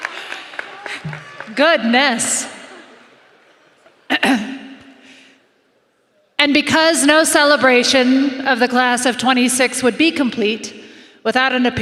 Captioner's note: applause